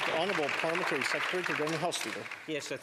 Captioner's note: some Applause